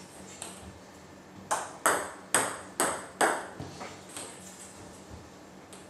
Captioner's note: balls ping pong hitting continues